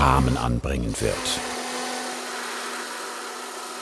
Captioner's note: grinding noise